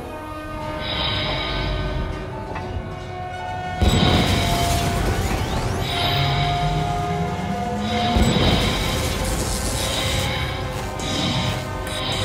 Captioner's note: engine ignition